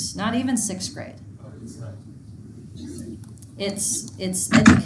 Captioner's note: speaking faintly